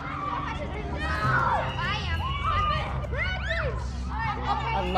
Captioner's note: kids chattering and shouting